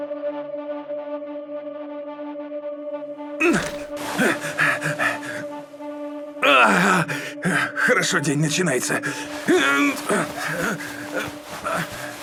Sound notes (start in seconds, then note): 6.4 sighs